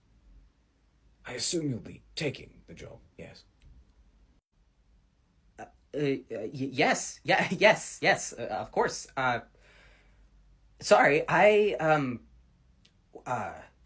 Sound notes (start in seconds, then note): none